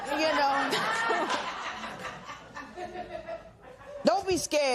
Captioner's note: laughter